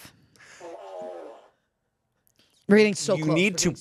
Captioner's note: fart machine farts